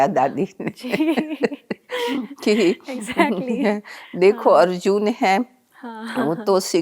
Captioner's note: they laugh